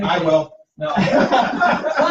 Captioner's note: laughter